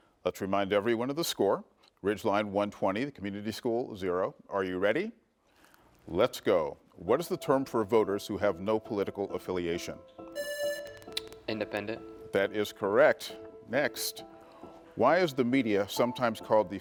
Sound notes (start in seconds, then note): 10.3 buzzer buzzing